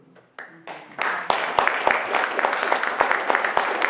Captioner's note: applause